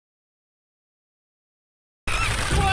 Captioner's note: bird squawking